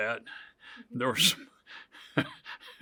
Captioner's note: laughs